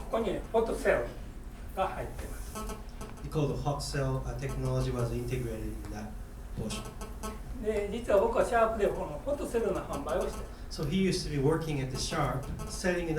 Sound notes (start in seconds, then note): 0.2 speaking in foreign language; 2.6 crackling; 7.7 speaking in foreign language